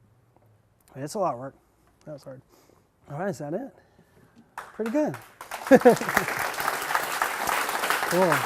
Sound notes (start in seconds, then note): 5.6 laughter